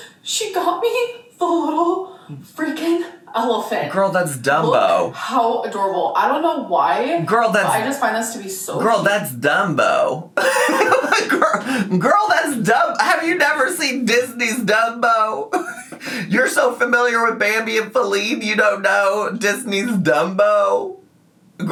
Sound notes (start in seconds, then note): 10.4 laughs